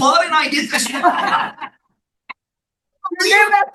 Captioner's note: laughing